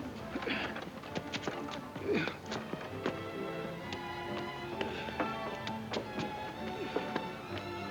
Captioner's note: footsteps plodding; gentle music